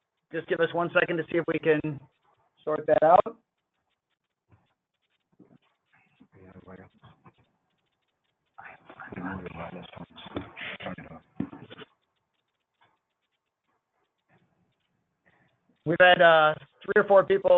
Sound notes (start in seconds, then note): 6.0 pause